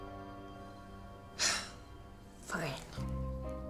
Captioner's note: sighs